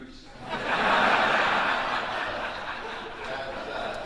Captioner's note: audience laughing